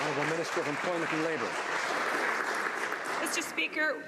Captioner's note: some Applause